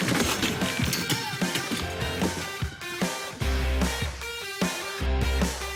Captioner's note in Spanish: Estruendo